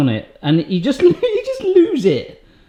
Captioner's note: laughs